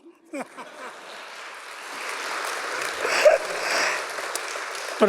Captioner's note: audience laughs and applauds